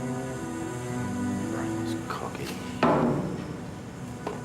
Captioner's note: mutters